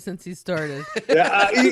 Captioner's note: laughing